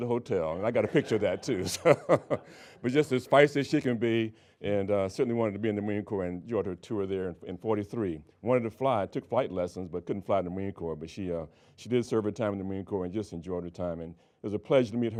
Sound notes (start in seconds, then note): 3.4 laughing